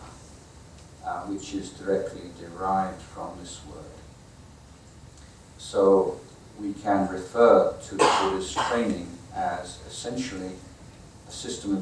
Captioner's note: audience coughing